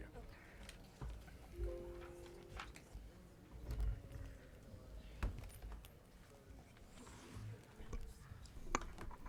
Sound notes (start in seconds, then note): 1.6 computer chimes